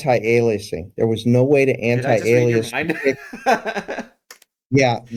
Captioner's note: laugh